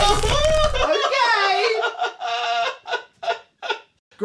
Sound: laughter turns to cries; terrified laughter

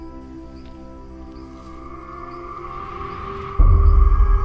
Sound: wind whistles

